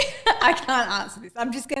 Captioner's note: sighs